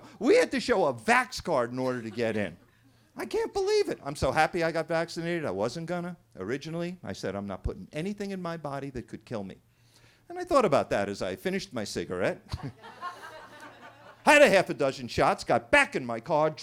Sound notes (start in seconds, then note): 12.5 everybody laughing